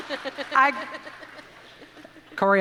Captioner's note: audience applauding